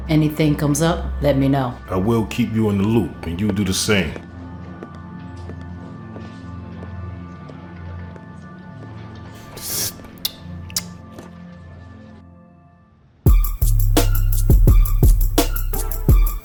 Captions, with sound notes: - Anything comes up, let me know. - I will keep you in the loop and you do the same. (pensive music) (Victor sips) (intense music)